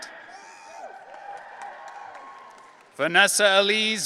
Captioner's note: audience cheering